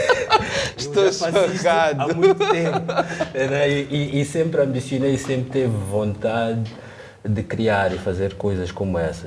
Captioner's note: laughs